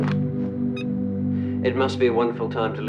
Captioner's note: remote beeps